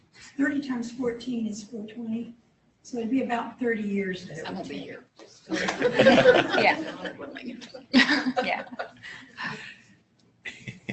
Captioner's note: laughter